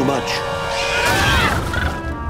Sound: screaming

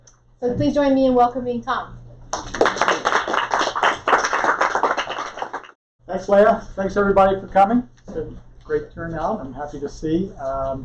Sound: clapping

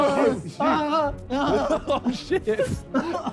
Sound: painful moaning

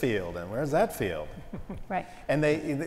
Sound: laugh

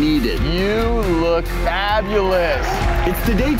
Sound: cheering

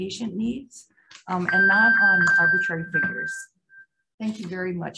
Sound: timer tone beeping

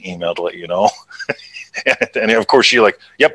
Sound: laughs

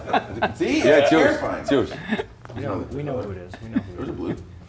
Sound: laugh

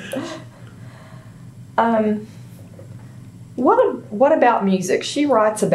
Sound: laughter

